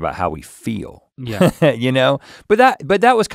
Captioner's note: chuckles